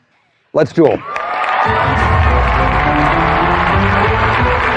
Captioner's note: cheering and applause; dramatic music